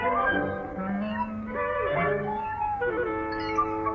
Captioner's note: meowing